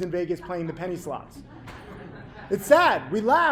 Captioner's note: audience laughing